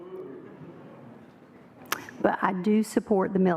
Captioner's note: booing